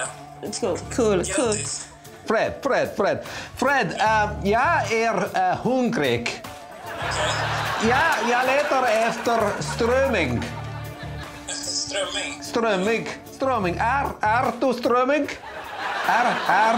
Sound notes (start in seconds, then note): 0.0 speaking Swedish; 5.1 speaking Swedish